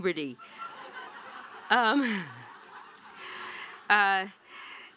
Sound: audience laughing

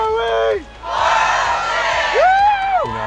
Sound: crowd yells

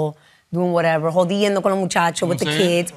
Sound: spanish

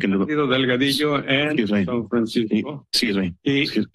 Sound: foreign language

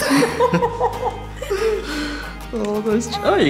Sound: laughter

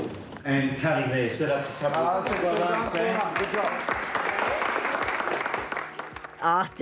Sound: applause

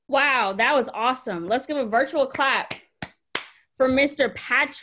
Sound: hands clapping

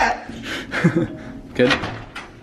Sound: small chuckle from the depths of hell

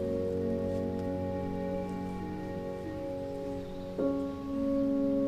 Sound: cassie hums a tune

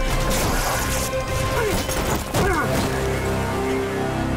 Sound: grunting

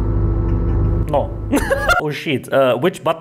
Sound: laughs

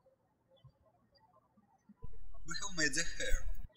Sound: birds chirping

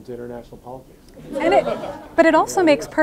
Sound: audience laughing

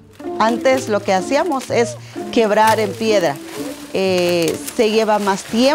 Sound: speaking in foreign language

